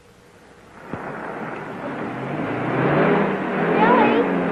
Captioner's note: car revving